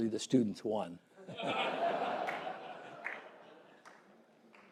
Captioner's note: laughter